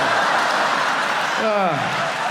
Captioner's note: audience laughing